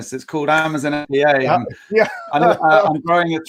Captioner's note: laughing